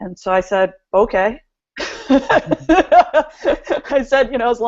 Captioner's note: laughs